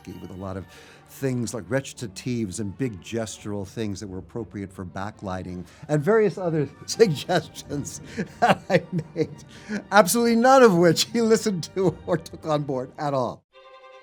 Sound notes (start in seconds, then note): 6.8 laughs